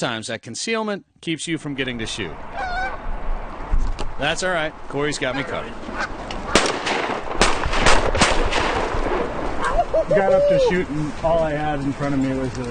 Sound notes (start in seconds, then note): 2.5 goose honking; 6.4 gun fires